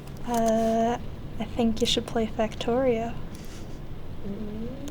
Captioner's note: chuckles